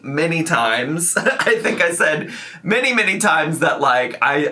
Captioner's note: laughing